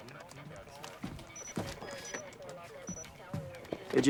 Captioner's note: alarm